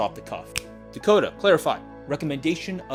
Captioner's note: fingers snap